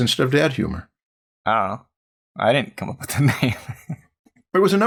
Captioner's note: chuckles